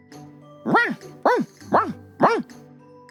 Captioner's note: barking